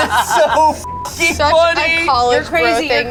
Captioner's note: beep